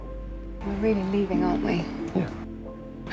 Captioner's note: voiceover